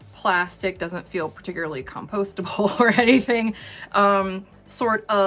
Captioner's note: chuckles